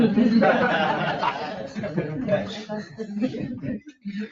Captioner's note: all laughing